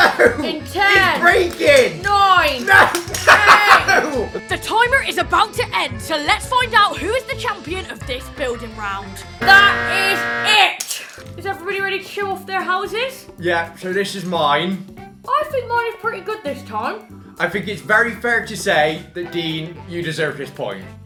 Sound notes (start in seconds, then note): 9.4 timer sound effect